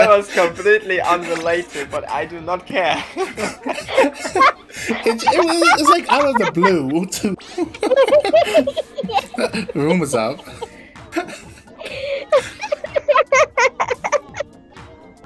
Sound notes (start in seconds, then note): 3.8 laughing; 7.8 continue laughter; 11.8 continue laughing